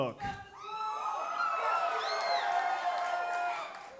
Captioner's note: crowd cheering